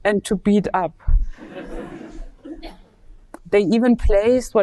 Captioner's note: audience laughing